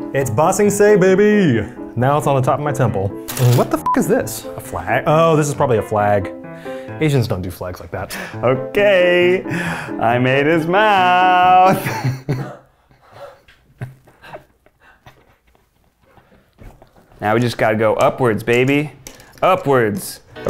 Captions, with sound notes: It's Ba Se Sing, baby! Now it's on the top of my temple. What the (beeping) is this? A flag? Oh, this is probably a flag. Asians don't do flags like that. - Okay. I made his mouth. (laughs) Now we just gotta go upwards, baby. Upwards.